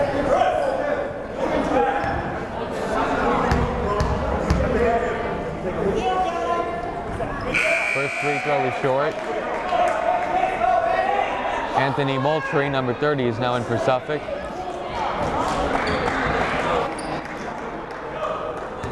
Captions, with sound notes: (yelling) (buzzer blaring) First free throw was short. (yelling) Anthony Moultrie number 30 is now in for Suffolk. (chattering)